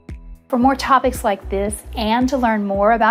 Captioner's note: woman's Voice